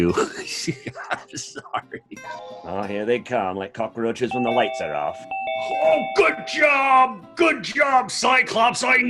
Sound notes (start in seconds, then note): 0.0 laughing; 4.3 bell ringing